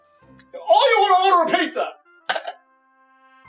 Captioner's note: hangs up phone